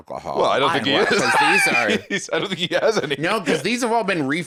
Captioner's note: laughs